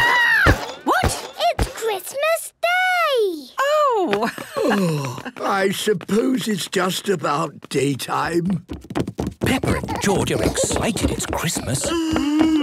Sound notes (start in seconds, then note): 4.1 laughing